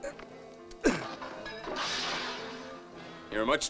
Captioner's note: parker grunting; clatter